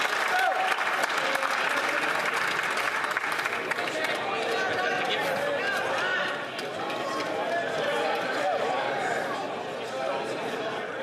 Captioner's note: applause